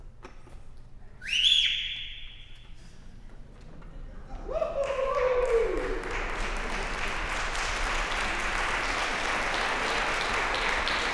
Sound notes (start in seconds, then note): 1.2 whistling; 4.4 cheering, laughing; 4.7 applause